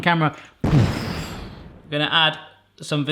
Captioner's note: explosion